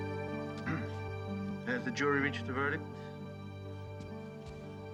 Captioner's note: clears throat